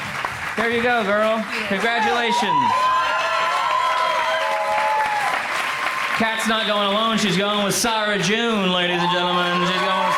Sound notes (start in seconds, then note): 3.1 crowd applauds